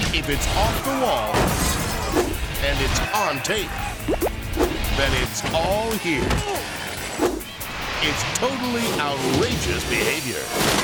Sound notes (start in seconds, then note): 1.5 glass shatters; 4.2 bird excrement plops